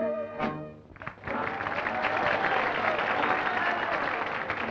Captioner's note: applause and cheering